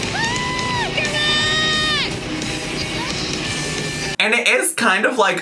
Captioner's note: tractor engines whirring; upbeat music